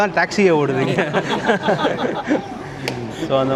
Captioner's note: laugh